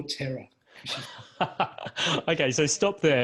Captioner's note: laughs